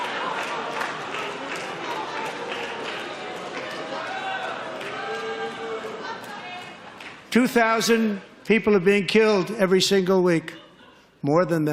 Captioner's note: laughter